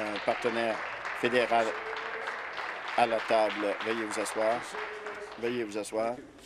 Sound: applause

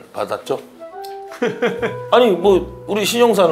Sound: smacks lips

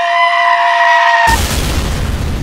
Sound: booooooooom

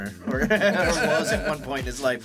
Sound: laughing

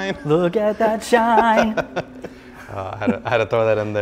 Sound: laughs

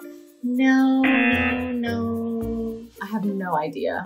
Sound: buzzer rings

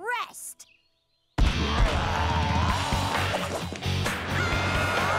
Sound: roaring; yelling

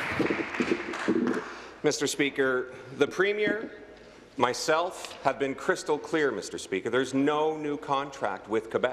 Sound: applause

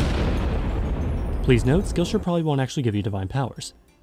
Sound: explodes

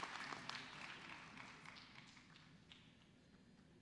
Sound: cheers and applause

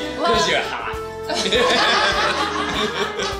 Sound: laughter

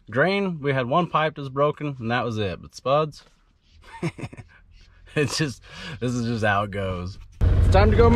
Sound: laughs

